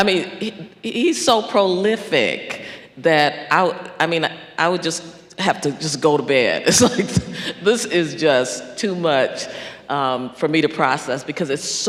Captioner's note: laughs